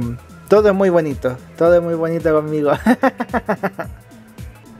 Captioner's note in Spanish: risas